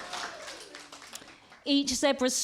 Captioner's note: applause